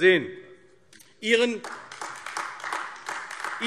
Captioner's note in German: Beifall AfD